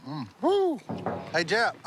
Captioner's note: knocks